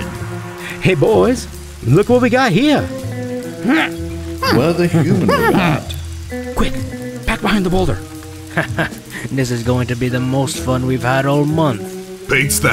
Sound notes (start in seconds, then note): 4.4 ape noises; 6.5 whispers